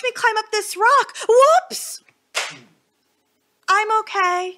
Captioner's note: smack